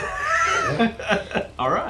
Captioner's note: laughing